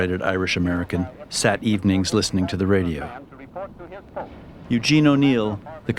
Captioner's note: radio Continues